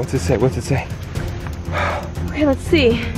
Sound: sighs

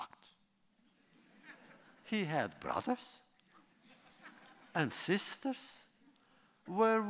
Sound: laughter

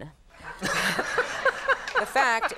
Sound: Conan and audience laughing

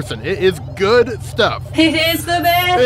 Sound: laughs

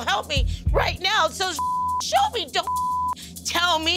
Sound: beeping

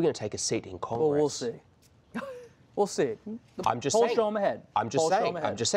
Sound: laughter

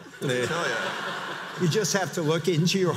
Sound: audience laughs

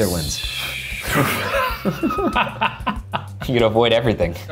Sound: laughing

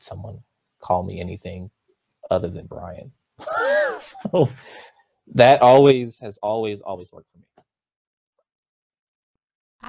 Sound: laughs

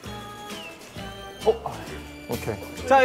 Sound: peep

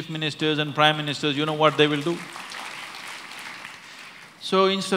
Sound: applause

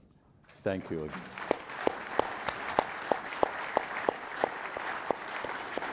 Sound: and audience applauding

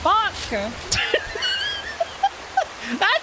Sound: laughter

